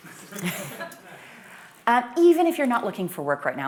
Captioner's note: laughter